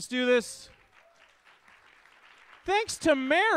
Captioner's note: audience claps